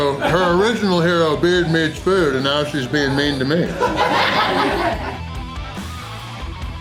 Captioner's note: crowd laughter; crowd laughter